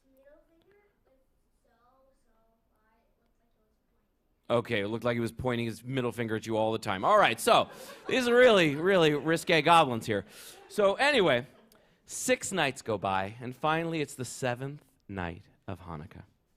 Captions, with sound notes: -It's middle finger was so-so high, it looked like it was pointing. -Okay. It looked like he was pointing his middle finger at you all the time. All right. [laughter] So it's really-really risqué goblins here. So anyway, six nights go by and finally it's the seventh night of Hanukkah.